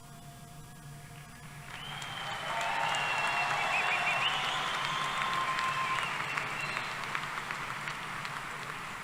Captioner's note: applause